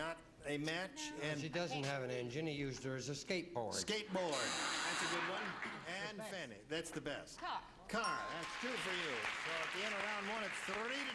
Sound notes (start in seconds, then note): 4.3 buzzer sounds; 8.3 applause